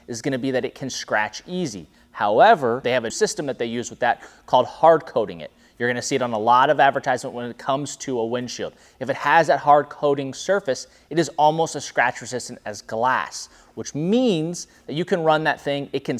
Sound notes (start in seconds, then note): none